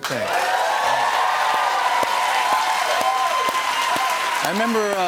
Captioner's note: cheers and applause